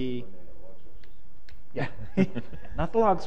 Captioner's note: chuckling